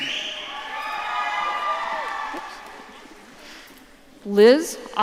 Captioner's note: audience cheering